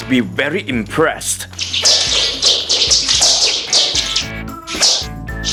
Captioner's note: swinging sounds